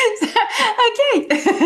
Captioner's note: giggle